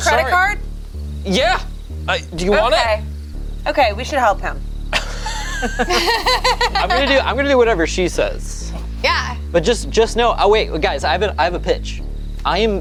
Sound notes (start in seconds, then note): 4.9 group laughs